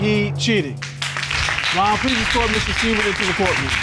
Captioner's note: all applauding